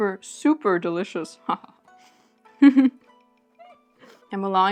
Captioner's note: laughs